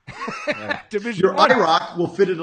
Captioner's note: laughing